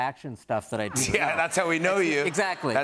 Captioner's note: laughter